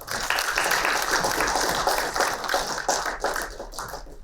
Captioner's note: applauding